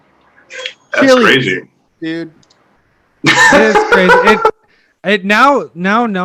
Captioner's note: laughs